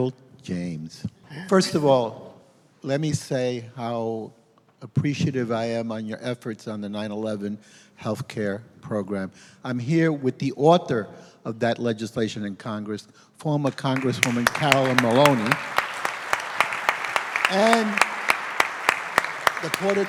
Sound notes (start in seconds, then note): 13.6 applause